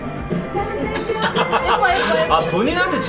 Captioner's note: laughing